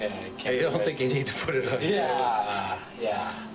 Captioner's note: laughs